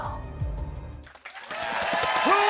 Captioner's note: cheers and applause